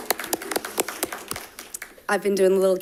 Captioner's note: audience applauding